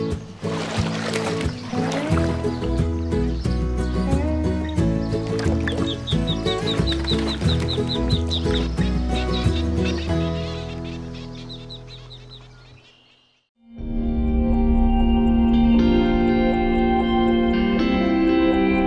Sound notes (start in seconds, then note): 0.2 upbeat music; 5.6 duck chirping; 13.6 gentle music